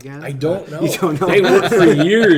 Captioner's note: everyone laughs